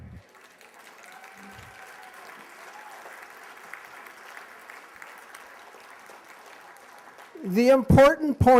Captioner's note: applause